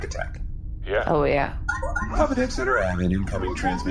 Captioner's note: communicator chimes